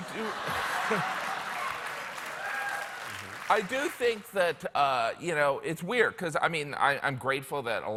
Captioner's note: laughter